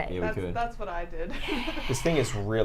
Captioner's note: laughs